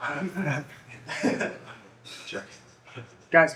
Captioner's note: laughing